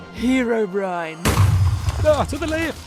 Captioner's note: thunder